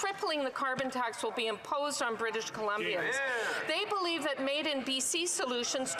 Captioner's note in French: voix de l'interprète